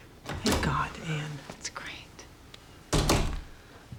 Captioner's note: door opens, closes